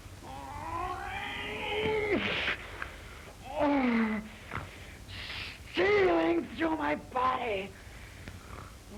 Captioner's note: groaning